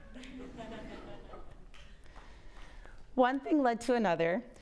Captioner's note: audience laughs